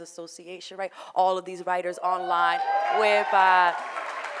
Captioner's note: audience whooping